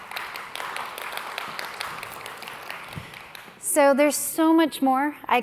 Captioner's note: applause